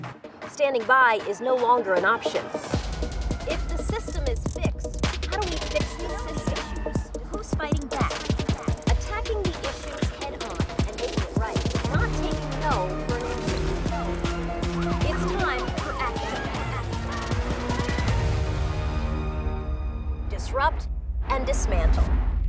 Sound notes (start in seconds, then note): 16.0 sirens wailing; 16.4 Soledad's voice echoing; 17.4 dramatic hip hop music crescendos